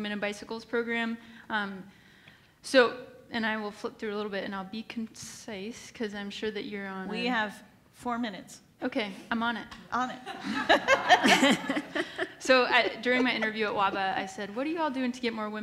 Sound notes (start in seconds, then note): 10.2 laughs